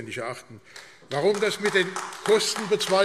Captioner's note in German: Beifall AfD